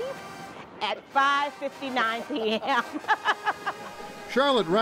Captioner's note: laughs